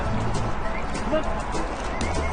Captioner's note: whistles